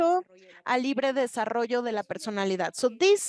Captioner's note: speaking Spanish